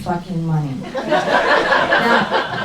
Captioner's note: crowd laughs